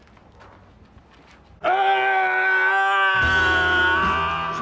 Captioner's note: yelling